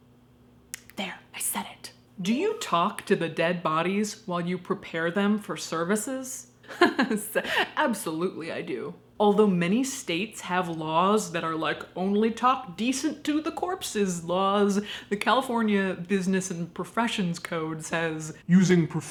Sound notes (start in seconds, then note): 6.7 laughs